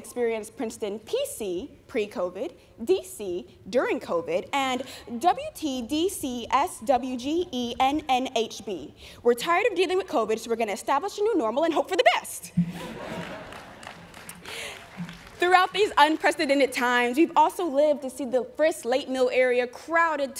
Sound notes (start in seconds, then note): 12.6 students laughing